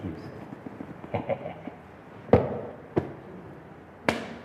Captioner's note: laugh